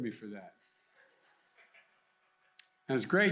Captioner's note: laughter